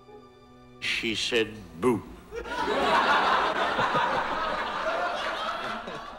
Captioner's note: audience laughing